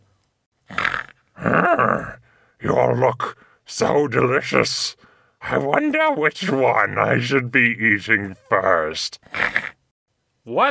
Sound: snorting throughout

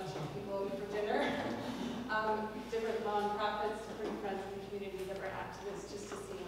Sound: laugh

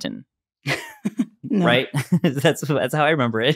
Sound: laughter

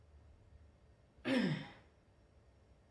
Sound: clears throat

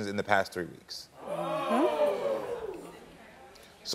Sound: audience oohing

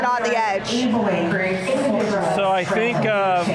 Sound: announcements in background

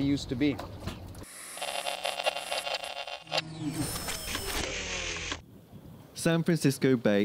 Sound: static and mechanical noise

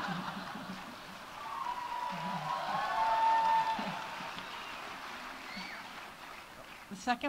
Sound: audience laughs; audience cheering; audience applauding

